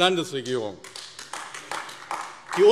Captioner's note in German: Beifall AfD